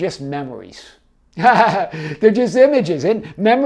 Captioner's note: laughs